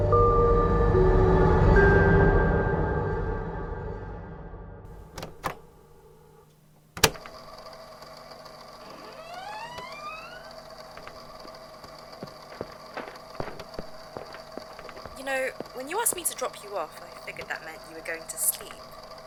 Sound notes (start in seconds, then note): 5.0 click; 8.7 door opens; 10.8 hurried footsteps, followed by the rustling of paper